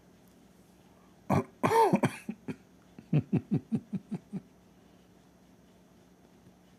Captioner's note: Ketawa